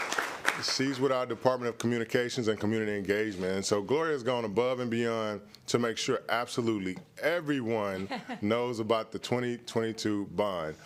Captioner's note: applause